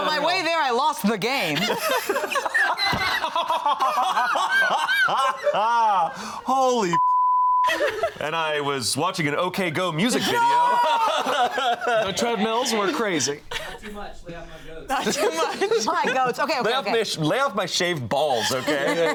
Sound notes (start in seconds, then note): 1.4 all laughing; 7.0 beep; 18.4 laughs